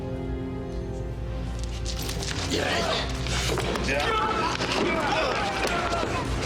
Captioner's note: scuffling